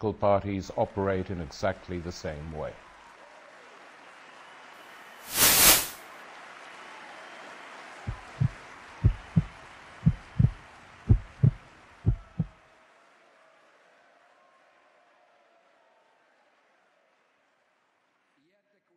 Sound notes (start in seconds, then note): 2.3 cheering; 7.1 /heartbeat; 7.1 heartbeat